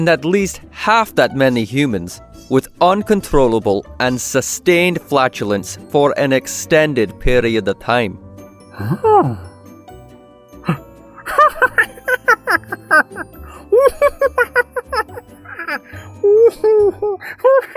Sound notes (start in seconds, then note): 11.2 horrified noise, more laughter